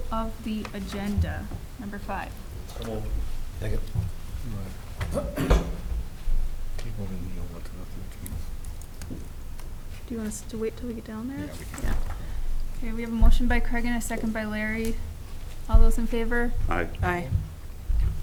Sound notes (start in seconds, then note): 3.0 mumbling